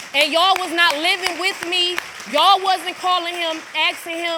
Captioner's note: audience clapping